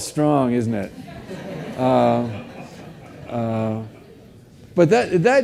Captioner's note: audience laughs